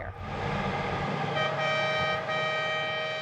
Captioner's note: truck horn honks